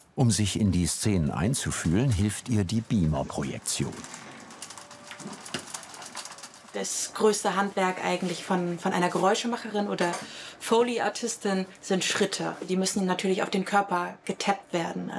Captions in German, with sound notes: Um sich in die Szenen einzufühlen, hilft ihr die Beamer-Projektion. (Leises Knattern) Das größte Handwerk von einer Geräuschemacherin oder Foley-Artistin sind Schritte, die müssen natürlich auf den Körper getappt werden.